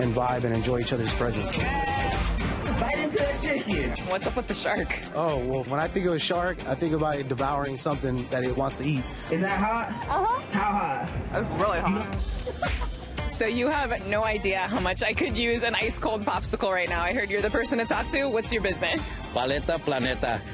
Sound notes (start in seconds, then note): 12.3 both laugh